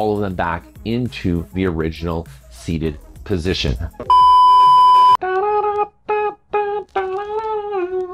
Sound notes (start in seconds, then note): 4.0 TV beeping; 5.2 humming